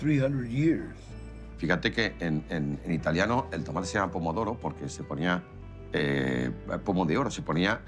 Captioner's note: in Spanish